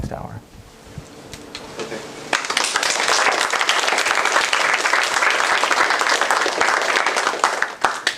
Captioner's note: applause